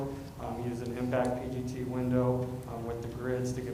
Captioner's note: echoey audio